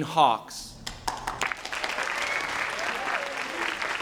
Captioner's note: applause